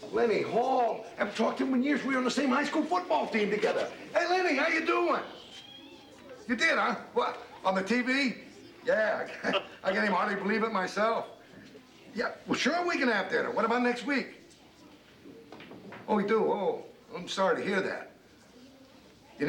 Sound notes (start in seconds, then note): 5.1 phone rings